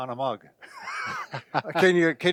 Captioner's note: both laughing